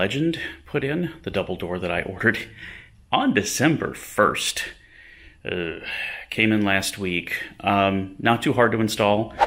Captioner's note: sigh